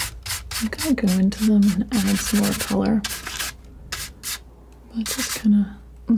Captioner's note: scratching